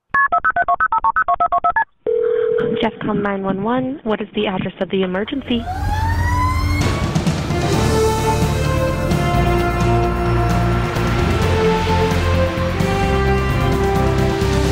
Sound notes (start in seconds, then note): 0.1 phone ringing; 0.1 phone keypad beeping; 5.4 siren blaring; 5.6 inspirational music